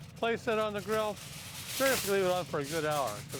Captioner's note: foil coming out of container